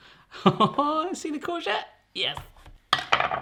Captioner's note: laughs